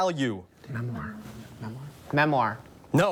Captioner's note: whispers